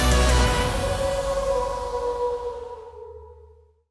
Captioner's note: howls